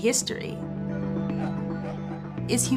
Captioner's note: dog barking in distance